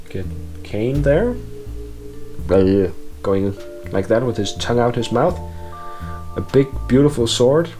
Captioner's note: bleh sounds